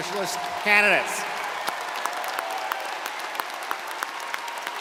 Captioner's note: crowd applauding